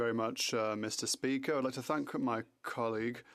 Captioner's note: speaking French